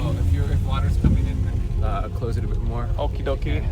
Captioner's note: none